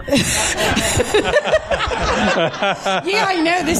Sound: laughter

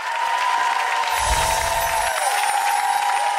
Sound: applause

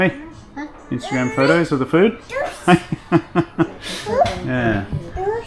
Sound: laughing

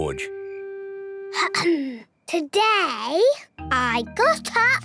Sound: clears throat

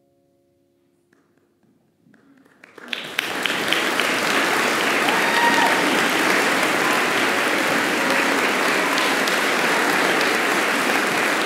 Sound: applause

